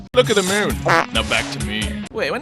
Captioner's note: poof